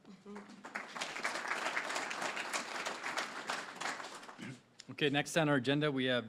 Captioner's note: applause